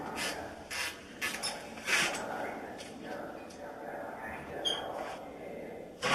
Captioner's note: mysterious whisper chanting